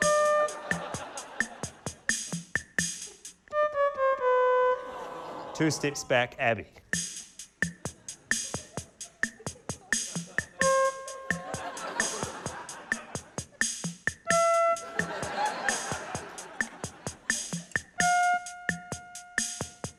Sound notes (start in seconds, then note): 0.1 note two plays; 3.5 funky beat stops, descending notes play; 7.6 funky beat resumes; 10.6 note one plays; 11.3 laughter; 14.3 note three plays